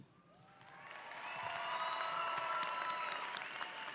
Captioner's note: audience applauding